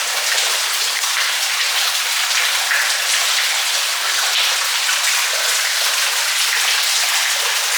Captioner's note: the sound of flowing water is very loud